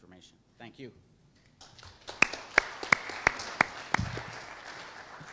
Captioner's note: applause